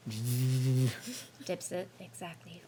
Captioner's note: buzzing